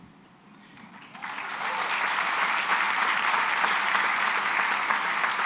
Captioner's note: applause